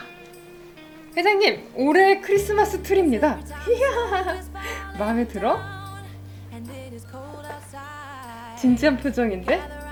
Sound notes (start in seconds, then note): 3.6 laugh